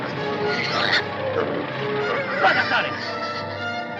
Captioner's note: pig squealing; speaking foreign language